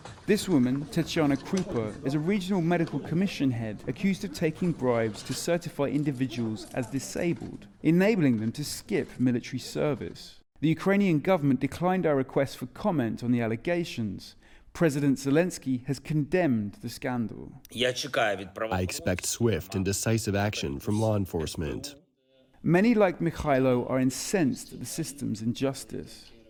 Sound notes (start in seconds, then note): 19.3 through translator